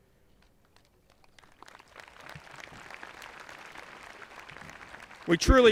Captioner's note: audience applauding